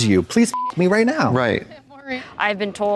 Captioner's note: beep